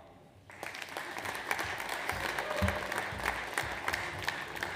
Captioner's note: audience applauds